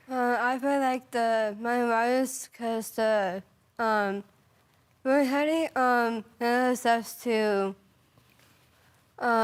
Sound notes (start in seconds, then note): 4.4 rustling; 8.0 rustling